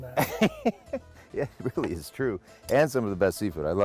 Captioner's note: laughing